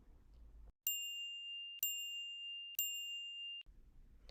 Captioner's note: chiming